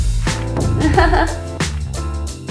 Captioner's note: laughs